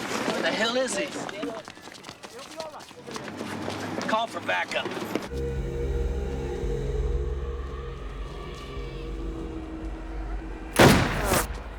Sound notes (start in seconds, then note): 10.8 firing